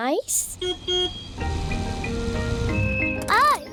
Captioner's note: car horn beeps